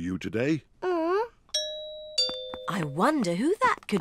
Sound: groans; doorbell

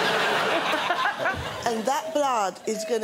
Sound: laughs

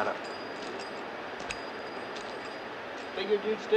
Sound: spurs jingling

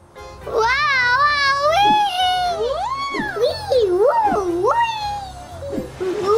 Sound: monkey screeching

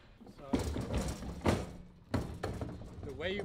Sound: metal clanking

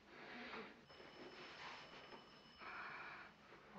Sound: phone ringing

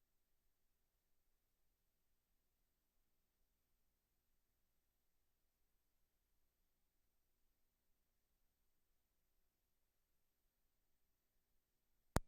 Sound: silence

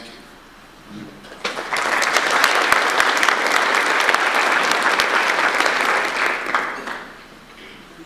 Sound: audience applause

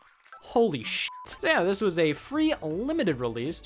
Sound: beep

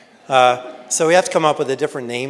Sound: audience laughs

